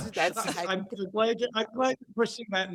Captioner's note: laughs